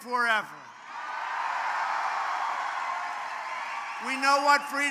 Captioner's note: applause